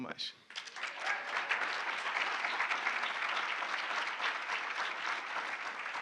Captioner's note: audience cheering and applauding